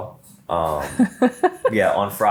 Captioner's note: laughs